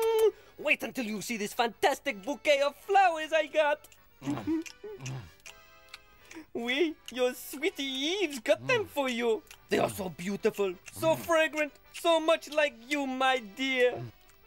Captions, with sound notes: Wait until you see this fantastic bouquet of flowers I got. (munching) Oui, your sweetie Yves got them for you. They are so beautiful, so fragrant, so much like you, my dear.